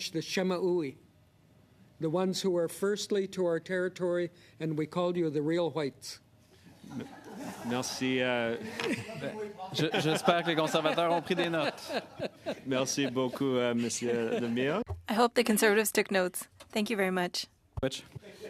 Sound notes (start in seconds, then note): 12.4 laughter; 17.1 speaking French